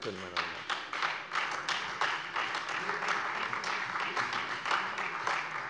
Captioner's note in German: Beifall Freie Demokraten und AfD